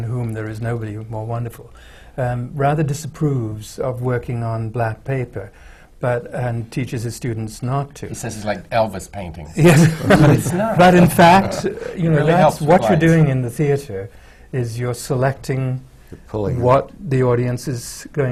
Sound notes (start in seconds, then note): 9.6 laughter